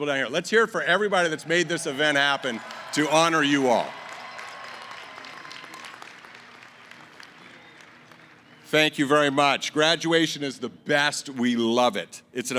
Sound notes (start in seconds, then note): 4.6 cheering & applause